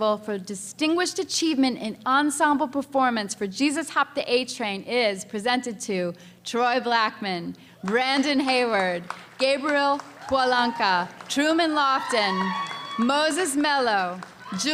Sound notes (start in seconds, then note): 9.0 audience applause; 9.9 audience cheering